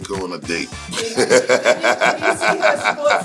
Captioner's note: laughing